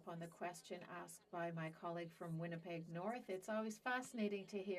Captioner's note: speaking French